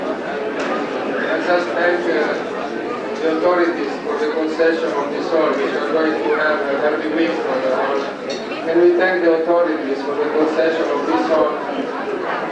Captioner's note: italian